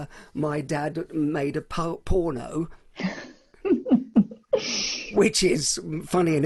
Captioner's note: chuckles